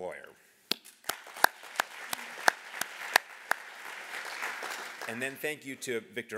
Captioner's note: applause